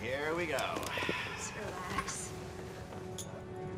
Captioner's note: none